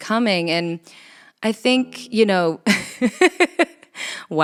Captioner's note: laughs